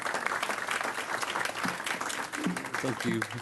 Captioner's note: applause